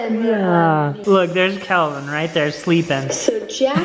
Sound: laughs

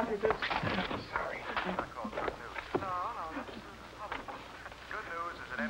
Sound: radio playing in background

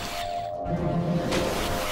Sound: splashing

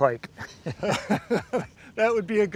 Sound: laughter

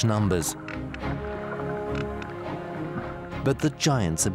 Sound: whales clicking

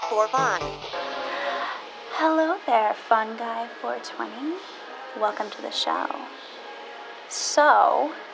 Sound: breathes deeply

